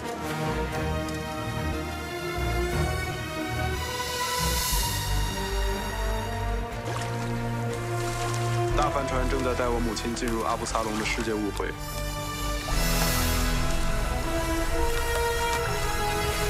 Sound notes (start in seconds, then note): 0.6 music strings; 6.6 water splashing; 13.0 water splashing